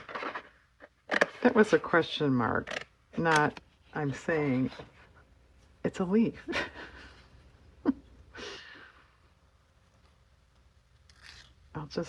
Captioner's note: laughs